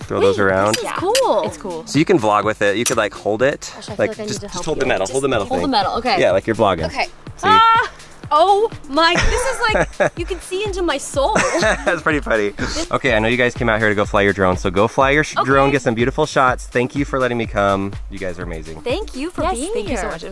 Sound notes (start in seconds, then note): 7.4 exclaims loudly; 9.1 light laughter